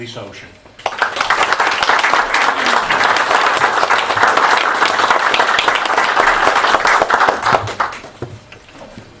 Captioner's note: applause